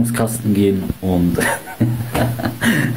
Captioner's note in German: Lachen